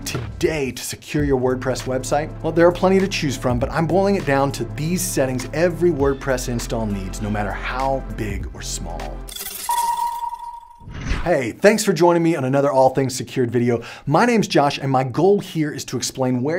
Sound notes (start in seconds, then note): 10.8 air whooshing